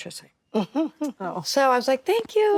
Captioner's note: actresses reacting